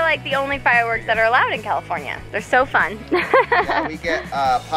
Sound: laughs

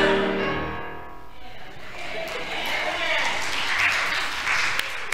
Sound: applause

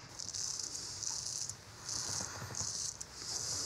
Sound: razor scrapes

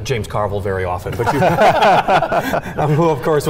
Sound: laughing

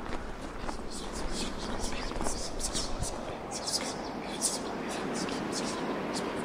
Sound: whispering in foreign language

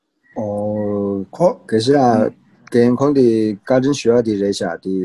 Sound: speaks in foreign language

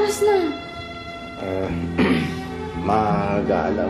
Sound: clears throat

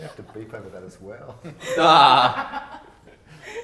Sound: laugh

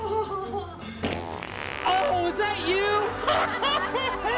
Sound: laughter; fart sound; laughter

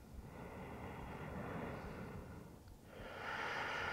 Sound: deep breathing

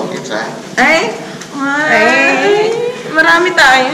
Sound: disagreeing noises

